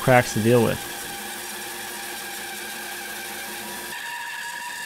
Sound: saw buzzing

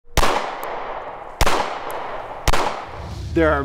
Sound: gunshots firing

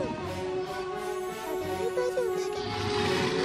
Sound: gurgling

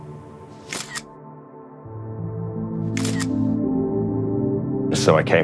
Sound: camera shutter repeats - schuck - schuck

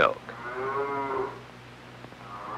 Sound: mooing

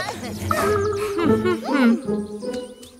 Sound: reproachfully

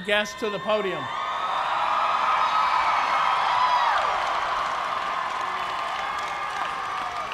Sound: cheers and applause

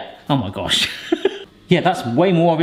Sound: laughing

